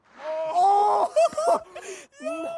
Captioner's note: laughter